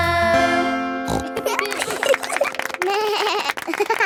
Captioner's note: snorts; laughing; bleats and laughs